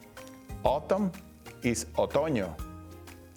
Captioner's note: speaking Spanish